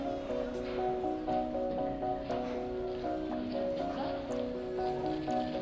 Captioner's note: woman, speaking native language